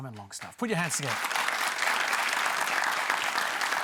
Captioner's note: applause